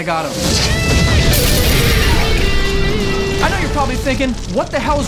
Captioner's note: explosion; electric guitar